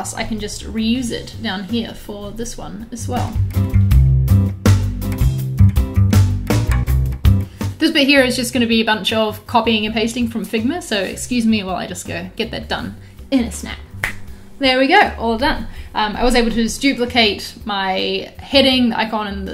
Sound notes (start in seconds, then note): 3.8 relaxing upbeat music; 13.9 snapping